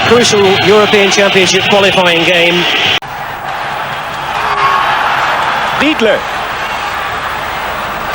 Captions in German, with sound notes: Championshiple [jubel]